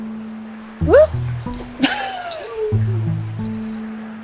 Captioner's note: laughs